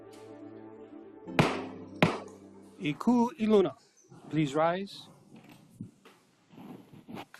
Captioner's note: gavel bangs twice